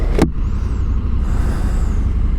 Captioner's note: plane engine